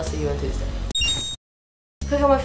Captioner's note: Legend of Zelda rupee sound effect